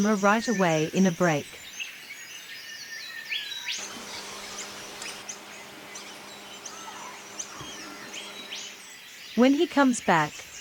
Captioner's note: birds sounds and chirps